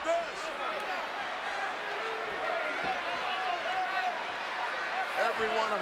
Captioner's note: applause